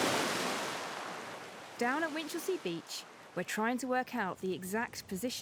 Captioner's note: waves sloshing